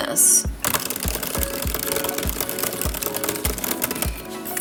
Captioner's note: keyboard clicking